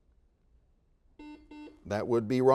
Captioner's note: series of beeps